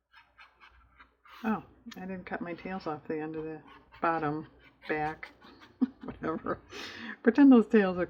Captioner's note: laughs